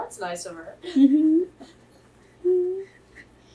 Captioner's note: laughs